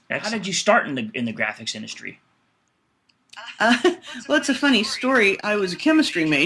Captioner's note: laughs